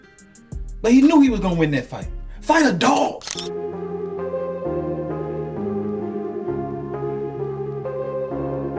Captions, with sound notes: but he knew he was gonna win that fight. Fight the dog! (camera clicks) (upbeat music)